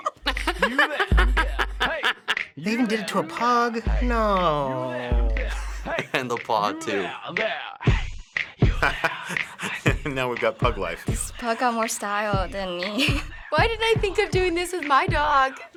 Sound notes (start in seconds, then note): 0.0 laughing; 5.4 chuckles; 8.8 laughing